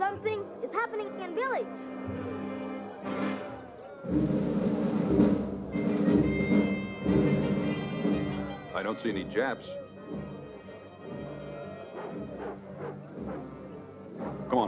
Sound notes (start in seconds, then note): 2.2 crowd chattering; 11.0 people chattering; 11.7 dog barks